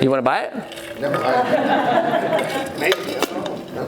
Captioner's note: laughing